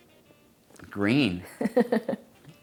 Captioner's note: both laugh; laughs